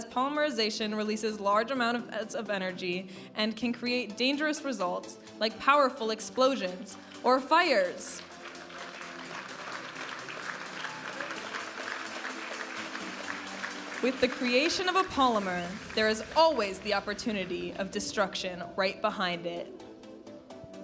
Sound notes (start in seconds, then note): 9.2 audience applauding and cheering; 11.3 vibrant music; 20.6 vibrant music